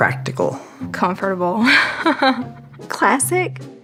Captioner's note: laugh